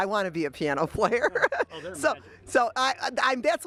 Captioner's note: laughs